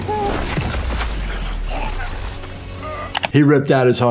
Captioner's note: squish